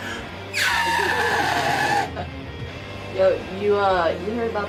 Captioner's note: Johnny squeals